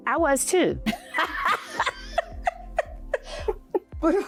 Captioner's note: laughing